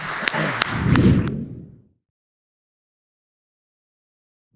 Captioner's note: audience clapping; air swooshing